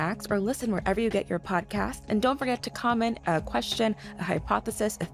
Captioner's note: none